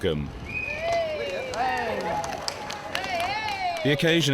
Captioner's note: crowd cheering